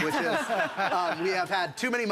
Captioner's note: audience laughs